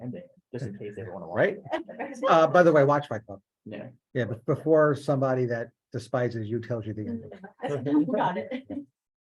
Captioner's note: laughing